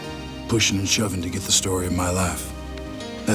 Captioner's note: none